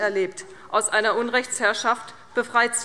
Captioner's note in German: none